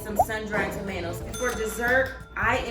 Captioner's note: ding